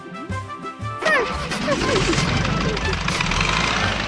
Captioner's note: whimpering